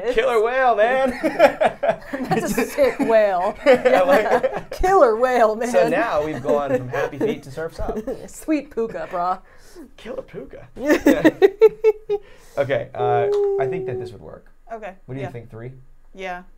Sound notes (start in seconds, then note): 11.5 laughing